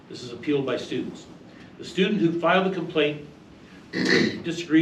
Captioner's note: reading from paper; clears throat